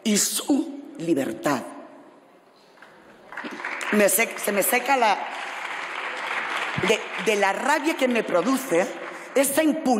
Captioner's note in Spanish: Aplausos